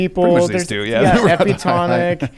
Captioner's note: laughs